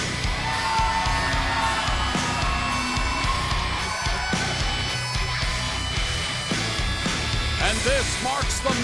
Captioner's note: cheers and applause